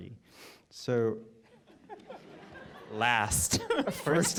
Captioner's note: laughter